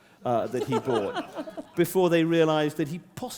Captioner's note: laughter